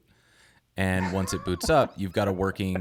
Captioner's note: laughing